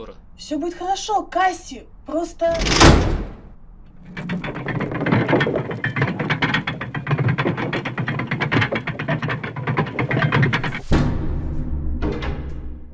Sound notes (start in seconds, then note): 2.4 door shuts; 2.5 chains clicking